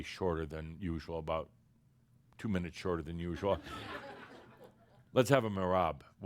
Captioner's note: laughter